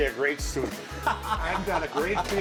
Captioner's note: laughter